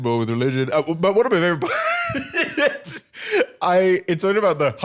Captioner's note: laughs